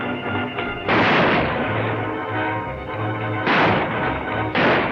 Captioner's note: guns firing